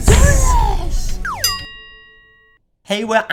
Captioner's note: bell dinging